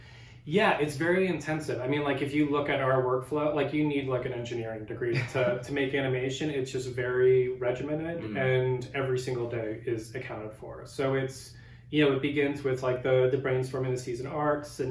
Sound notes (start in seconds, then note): 5.1 laughs